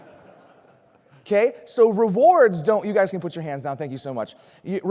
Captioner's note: laughter